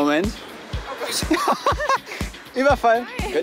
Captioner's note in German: lacht